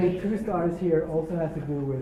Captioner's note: laugh